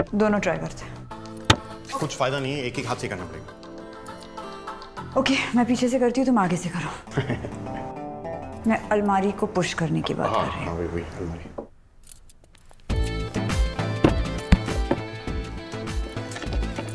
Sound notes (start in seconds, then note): 7.1 giggling